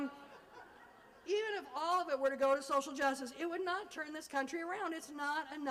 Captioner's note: laughter